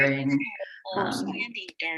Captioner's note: laughs